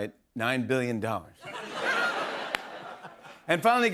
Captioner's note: laughter